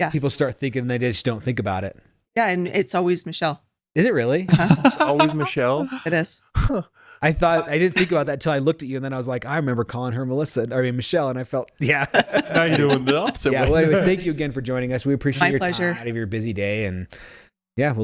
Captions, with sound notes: Yeah. People start thinking they just don't think about it. Yeah, and it's always Michelle. Is it really? (laughing) Always Michelle. It is. I thought, I didn't think about that till I looked at you and then I was like, I remember calling her and Melissa, I mean Michelle and I felt, yeah. (laughing) How you doing Bill? Yeah, well I always thank you again for joining us. We appreciate your time. My pleasure. Out of your busy day and yeah,